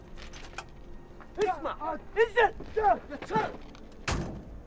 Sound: speaking foreign language

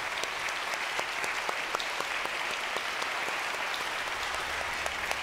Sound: congregation clapping

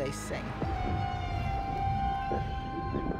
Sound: whales calling

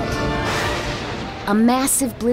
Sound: thunder

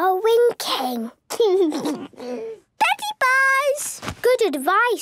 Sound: laugh

